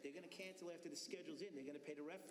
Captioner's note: laughter